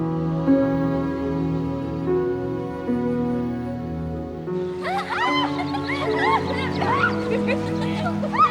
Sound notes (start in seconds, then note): 4.7 laughing